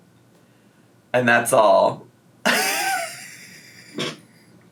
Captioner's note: laughing